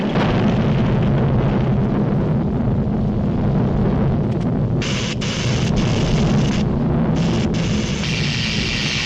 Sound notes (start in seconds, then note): 5.0 electricity zaps